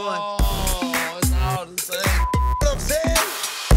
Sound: beep

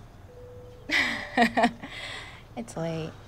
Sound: Kelly laughing

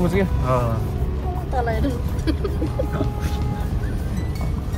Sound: laughter

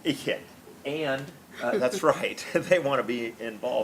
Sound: laughs

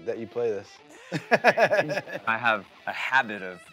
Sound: guitarists laughing

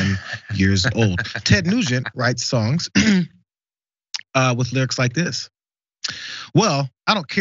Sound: cough

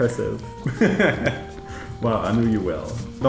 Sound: laughs

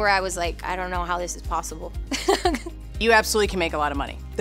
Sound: laughs

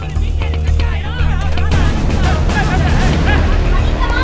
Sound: crowd shouting

